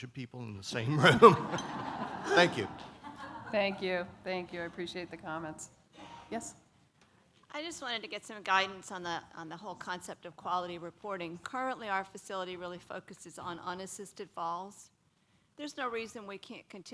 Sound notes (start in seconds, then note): 4.9 laughter